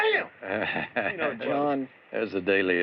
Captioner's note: chuckles